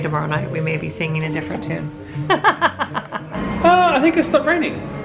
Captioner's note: laughs